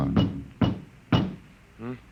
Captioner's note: knocking